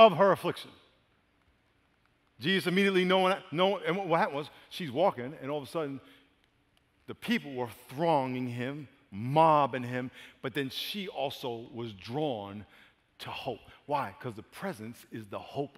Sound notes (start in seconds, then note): none